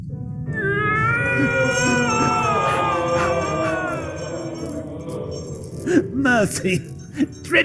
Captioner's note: wails